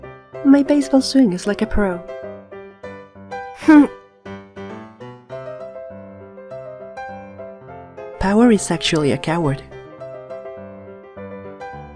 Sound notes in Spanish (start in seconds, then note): 3.6 el sonido del fracaso